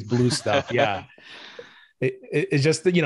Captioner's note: laughter